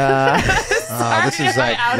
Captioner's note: group laughing